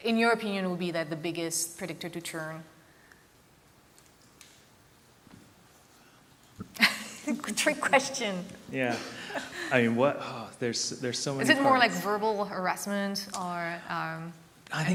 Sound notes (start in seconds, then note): 8.8 laughs